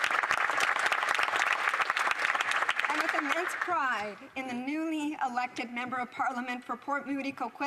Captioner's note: some Applause